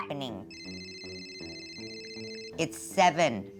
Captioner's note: phone ringing